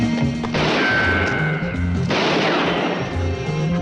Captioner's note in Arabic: إطلاق نار